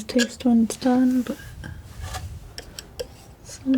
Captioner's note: scratching